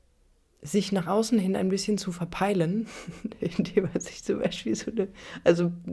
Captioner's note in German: gelächter